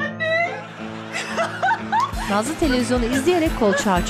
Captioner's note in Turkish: Gülme Sesi; Müzik - Neşeli